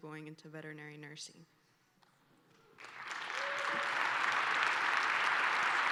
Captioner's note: applause